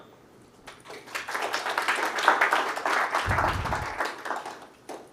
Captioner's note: audience applauding